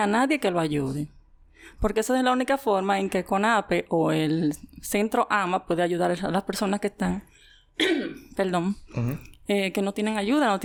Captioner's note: coughs